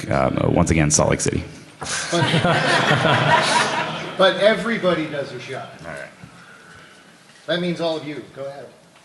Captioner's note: laughter